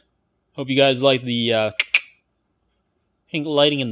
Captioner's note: clicks mouth